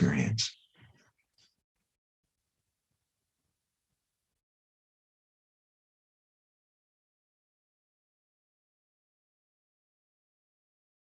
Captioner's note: silence